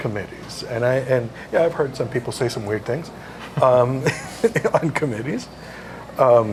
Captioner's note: laugh